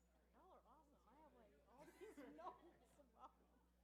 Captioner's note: chatter